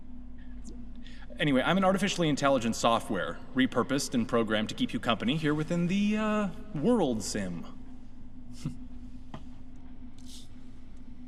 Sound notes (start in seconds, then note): 8.7 chuckle